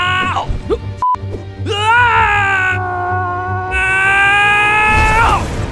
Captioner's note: yells; yells